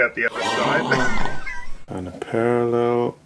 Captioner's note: gasping